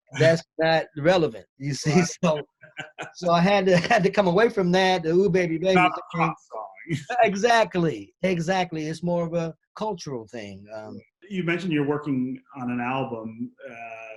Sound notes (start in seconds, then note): 1.8 laughs; 2.6 both laugh; 6.9 both laugh